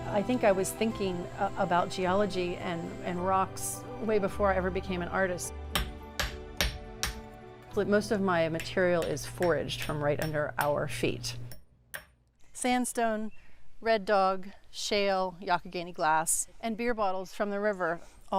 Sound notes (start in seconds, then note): 6.5 hammer tapping